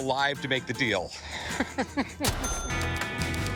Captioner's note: laughs